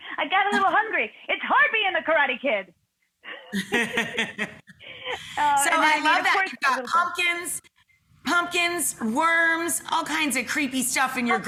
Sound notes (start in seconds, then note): 3.3 both laughing